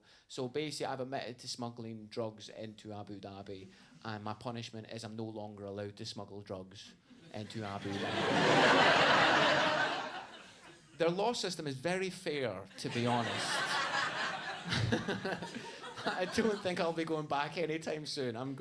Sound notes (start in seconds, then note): 7.4 audience laughs; 12.8 laughing; 12.8 audience laughs